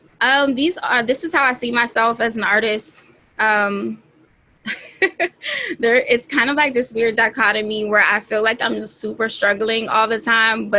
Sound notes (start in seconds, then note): 4.6 laughing